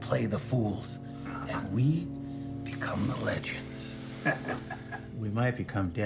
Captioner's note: chuckles